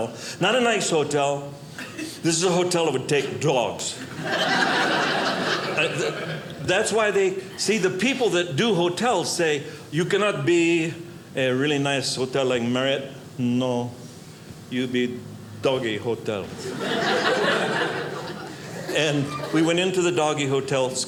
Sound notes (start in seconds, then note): 4.0 audience laughing; 16.5 audience laughing